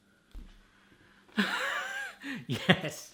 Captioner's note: laughing